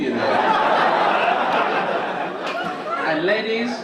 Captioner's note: audience laugh